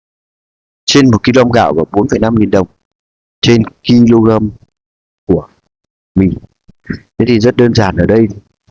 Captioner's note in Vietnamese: hắng giọng